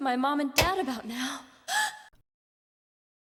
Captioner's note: light switch click; gasp